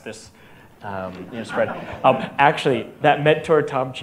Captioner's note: audience laughter